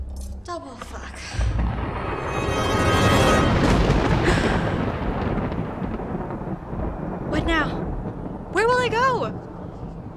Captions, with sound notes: Double fuck. [thunder] [gasp] What now? Where will they go?